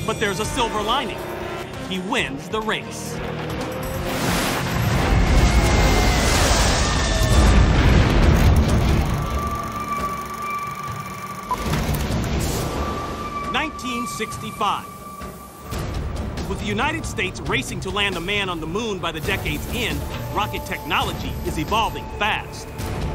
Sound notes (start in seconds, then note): 4.0 woman screams; 8.3 projector clicking